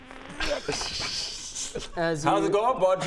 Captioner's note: pitiless laugh